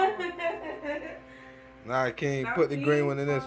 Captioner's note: laughing